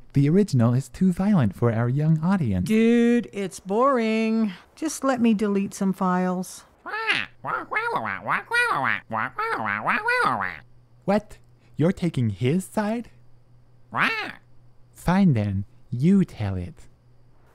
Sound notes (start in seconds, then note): 6.8 approvingly squawking; 13.9 affirmative squawk